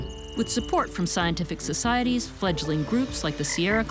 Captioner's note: frog croaks